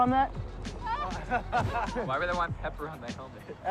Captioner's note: laughter